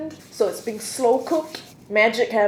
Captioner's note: hands shuffling